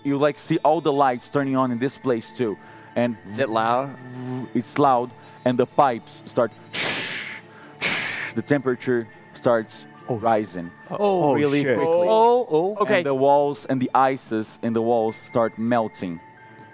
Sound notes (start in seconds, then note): 7.8 shhh Shhh